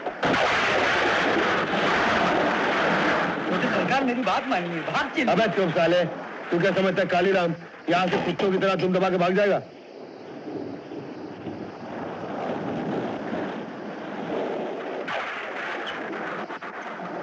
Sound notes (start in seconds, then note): 0.2 thunder Rumbling; 10.5 rain Pouring